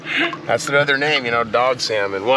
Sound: chuckling

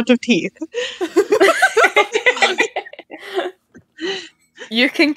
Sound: everyone laughing

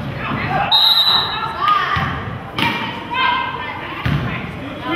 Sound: whistle blows

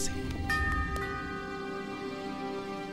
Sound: bell Rings

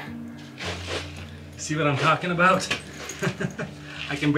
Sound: laughs

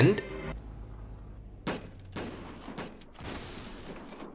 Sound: snapping metal noises

